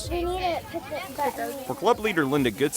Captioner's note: kids talking